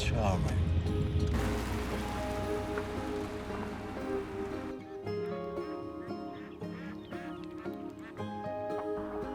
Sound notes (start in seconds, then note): 0.0 gentle music; 1.2 geese honking